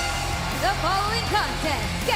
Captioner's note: bell ringing